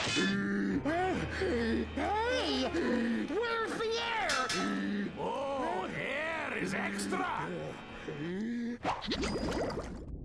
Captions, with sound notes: [gasping] WHERE'S THE AIR? OH, AIR IS EXTRA.